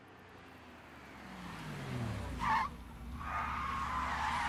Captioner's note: tires squeal